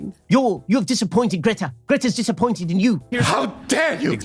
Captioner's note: mocking